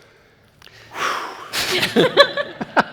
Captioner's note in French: soupir; rires